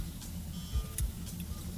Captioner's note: phone beeps